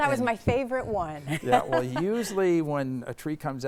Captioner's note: laughing